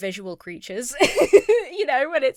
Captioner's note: laughs